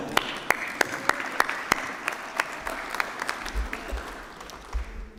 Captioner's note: applause